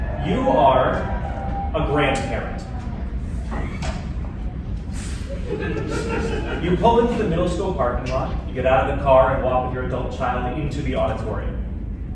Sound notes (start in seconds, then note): 3.0 tentative audience laughter